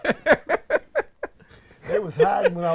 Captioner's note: laughs